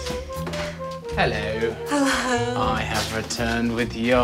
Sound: chuckles

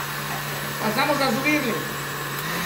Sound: blender

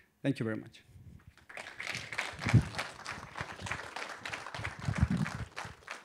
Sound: applause

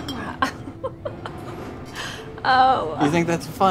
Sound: laughing

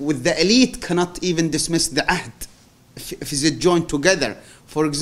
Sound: non-english

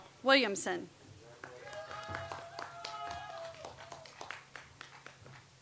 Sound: audience applauds

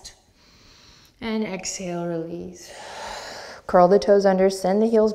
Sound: deep breath

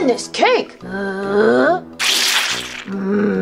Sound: Chef Frankie growling; splattering

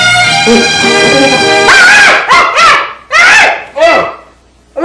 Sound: screams

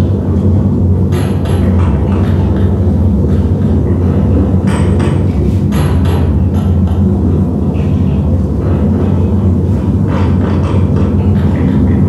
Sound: metal chains & hammers tap rhythmically

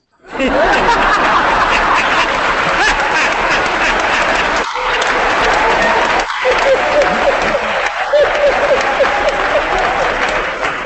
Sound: applause

